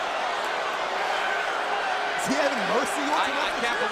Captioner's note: crowd cheering